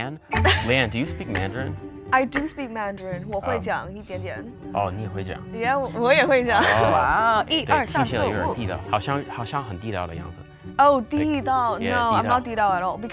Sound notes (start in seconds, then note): 3.4 speaks Mandarin; 9.2 speaks Mandarin